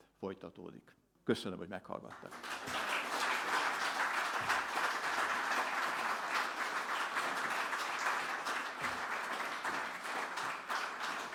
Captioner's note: applause